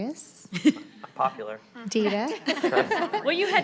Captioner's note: laughs